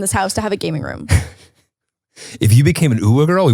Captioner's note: laughs